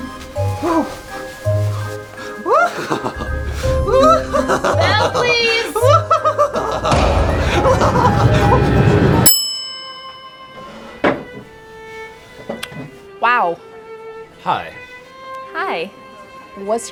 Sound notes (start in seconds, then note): 0.2 playful music; 2.6 Pennywise laughing; 9.0 bell dings